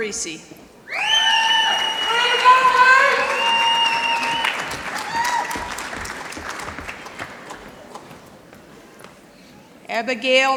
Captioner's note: applause